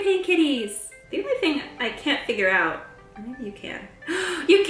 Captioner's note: gasp